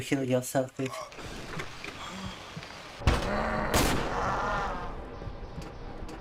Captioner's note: screaming